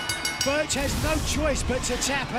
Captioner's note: bell ringing